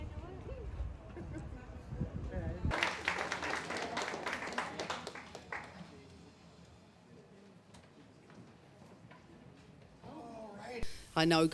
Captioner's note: crowd